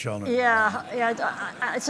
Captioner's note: laughter